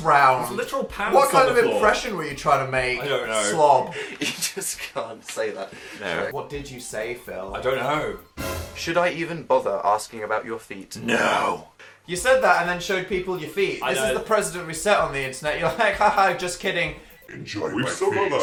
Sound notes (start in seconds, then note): 3.8 giggling; 7.5 suspense sound effect; 16.8 demonic voice